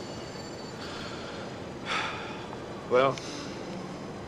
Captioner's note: sighs